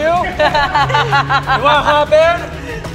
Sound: laughs

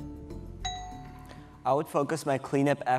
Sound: bell dings

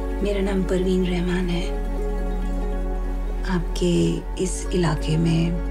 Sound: speaking in foreign language

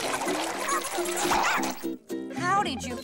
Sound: barking

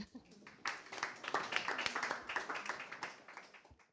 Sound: applause

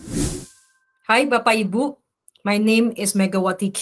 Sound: non-english speech

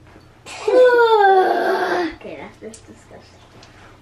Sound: groaning

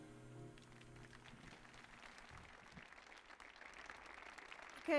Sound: audience applauding

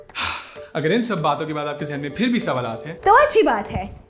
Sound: sigh

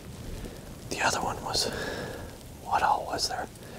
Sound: whispering

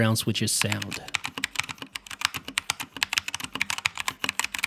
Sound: keys click

